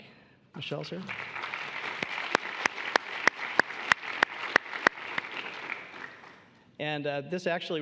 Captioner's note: applause